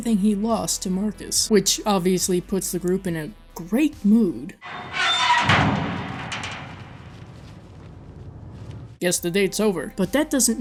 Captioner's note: dumpster lid screeches open